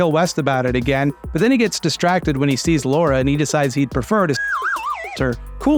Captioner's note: slide whistle